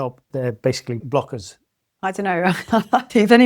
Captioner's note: laughs